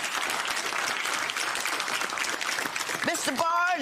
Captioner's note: applause